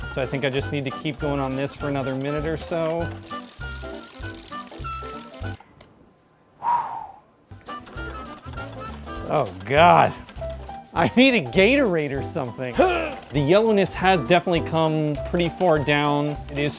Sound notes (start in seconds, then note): 6.6 exhales; 12.8 grunts